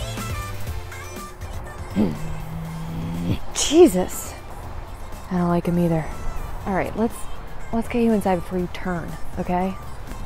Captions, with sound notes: [Low Growl] Jesus! I don't like him either. All right, let's -- let's get you inside before you turn, okay?